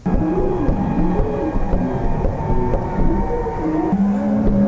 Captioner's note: screeching